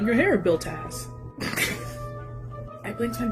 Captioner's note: chuckling